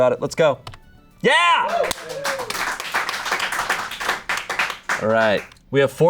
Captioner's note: audience applauding